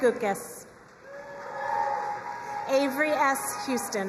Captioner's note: crowd cheering and applauding